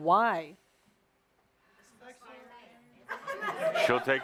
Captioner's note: A few yell out answers